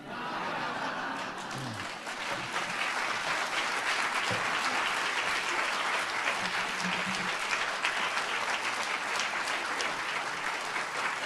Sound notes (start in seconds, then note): 0.0 audience laughs; 2.5 audience applauds